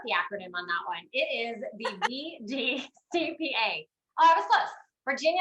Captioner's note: laughs